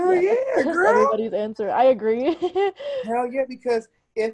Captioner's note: chuckles